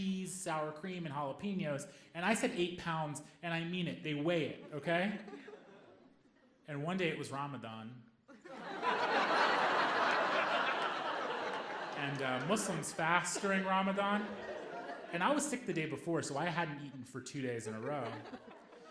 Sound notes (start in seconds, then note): 8.3 audience laughing